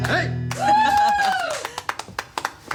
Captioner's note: cheering and clapping